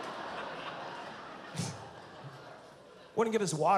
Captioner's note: laughs